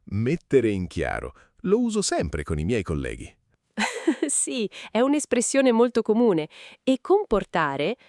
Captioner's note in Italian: risate